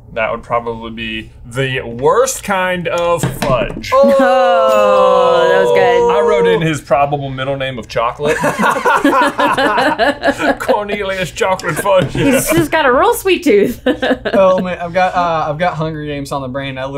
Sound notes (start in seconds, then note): 8.2 laughing